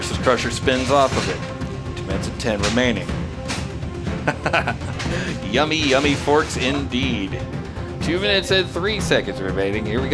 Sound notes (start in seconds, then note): 4.0 laughs